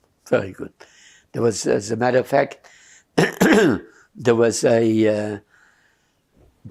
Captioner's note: clears throat